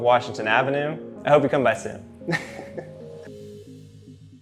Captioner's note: giggling